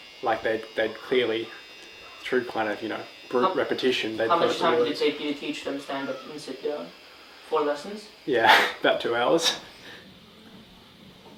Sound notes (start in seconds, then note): 8.5 chuckles